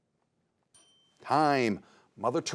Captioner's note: bell dings